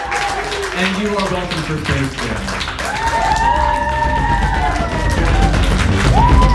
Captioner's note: laughs and applause; cheers; applause